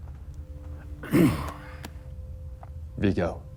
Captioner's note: Marcus clearing throat